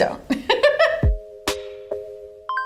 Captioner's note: Bryce laughs; light music